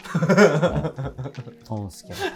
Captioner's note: laughing